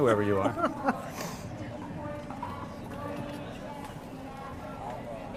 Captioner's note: laughs